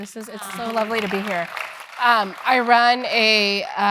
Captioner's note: applause